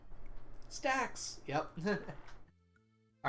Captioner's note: chuckles